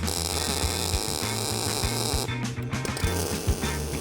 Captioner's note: welder crackling